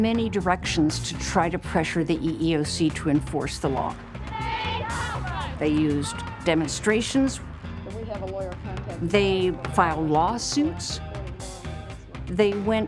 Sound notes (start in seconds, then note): 3.2 chanting